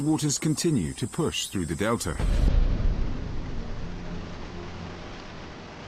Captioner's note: dramatic music; river waves crushing